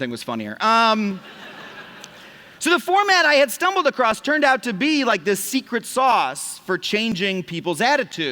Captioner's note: laughter